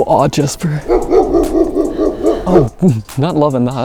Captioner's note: dog barking